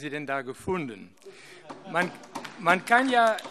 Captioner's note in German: Beifall AfD